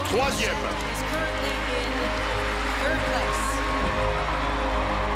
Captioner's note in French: acclamations